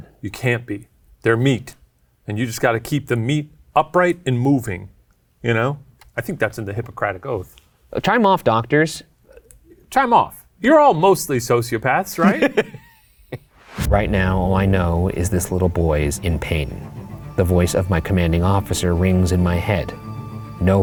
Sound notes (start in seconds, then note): 12.2 laughs